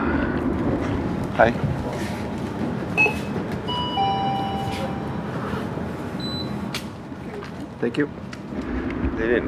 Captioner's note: store Beeps